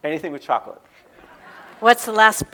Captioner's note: audience laughing